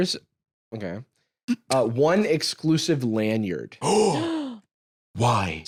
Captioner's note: gasp